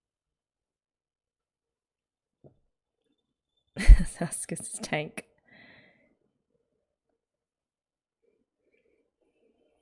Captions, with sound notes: [laughs] There's Asakusa's tank.